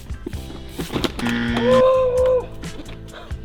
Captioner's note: lively music; bicycle crashing; bell buzzing; shouting